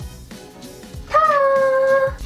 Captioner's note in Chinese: 感叹